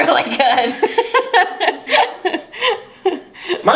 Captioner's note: laughs